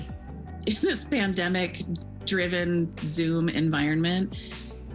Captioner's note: chuckles